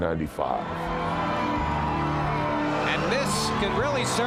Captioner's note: crowd cheers